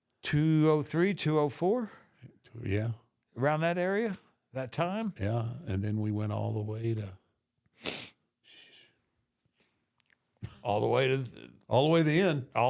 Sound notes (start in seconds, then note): 10.4 The Undertaker chuckles softly